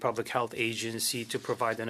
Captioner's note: speaking French